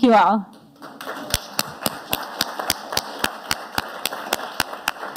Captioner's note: audience applauding